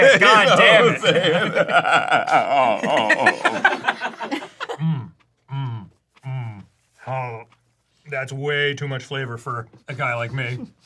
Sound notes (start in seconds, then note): 0.0 everyone laughs